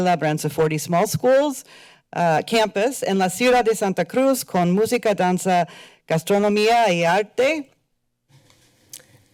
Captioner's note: foreign language